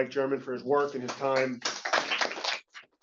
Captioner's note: applause